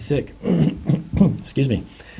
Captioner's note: clearing throat